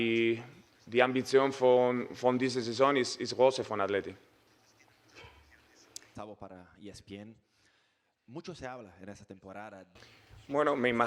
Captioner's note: Spanish